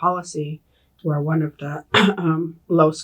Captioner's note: clears throat